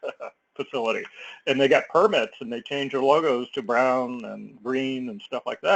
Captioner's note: laugh